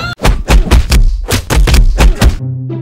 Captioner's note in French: Bruit de coups